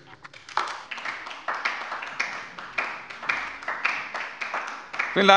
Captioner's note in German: Beifall bei der LINKEN